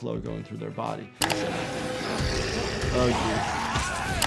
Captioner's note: zombie snarling